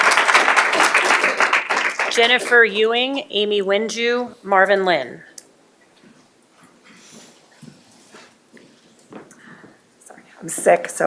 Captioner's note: applause